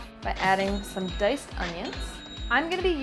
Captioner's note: cash register chimes